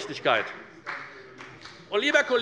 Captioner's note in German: Beifall des Abg